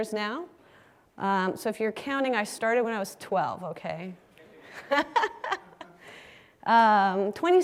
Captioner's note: laugh